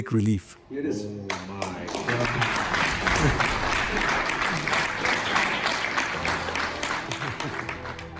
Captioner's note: applause